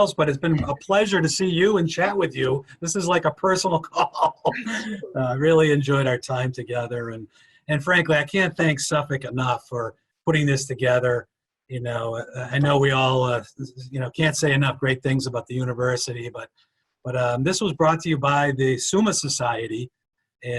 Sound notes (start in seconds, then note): 3.7 laughing